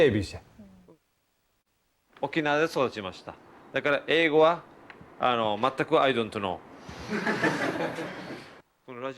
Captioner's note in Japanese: 会場笑い